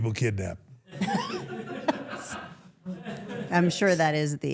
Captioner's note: everyone laughs